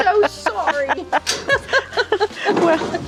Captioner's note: laughing